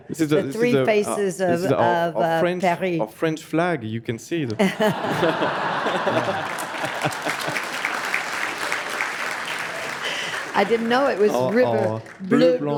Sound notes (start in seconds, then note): 4.5 audience laughs; 7.0 audience applauds